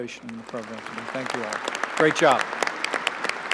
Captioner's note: applause